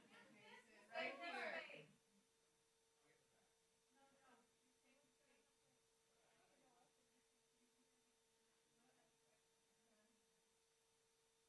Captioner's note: background chatter